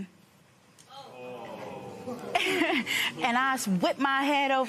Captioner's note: audience murmurs